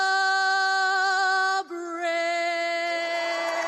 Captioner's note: cheers and applause